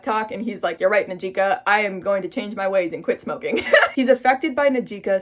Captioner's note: laughs